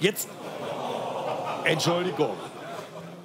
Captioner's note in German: Publikum macht "Ohhh"